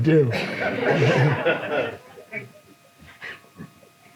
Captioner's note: audience laughs